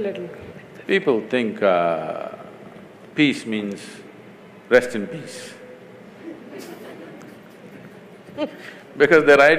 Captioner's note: laughter; 笑聲